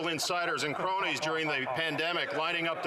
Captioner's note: speaking French